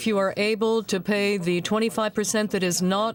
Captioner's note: speaking French